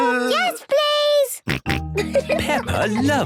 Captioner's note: snorting and giggling